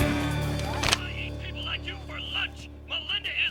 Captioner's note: man yelling on phone